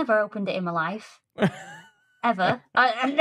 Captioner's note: chuckles